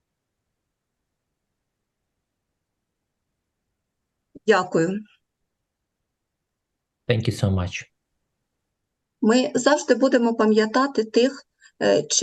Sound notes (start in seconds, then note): 4.4 foreign Language; 8.6 foreign Language